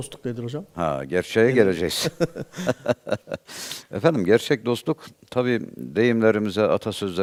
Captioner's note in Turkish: kahkaha